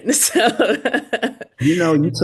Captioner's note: laughs